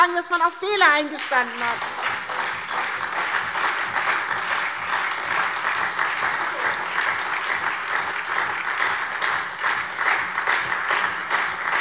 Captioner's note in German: Beifall SPD, AfD, Freie Demokraten und DIE LINKE